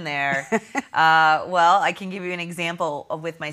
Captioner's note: laughs